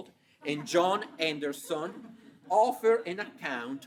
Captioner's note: audience chuckling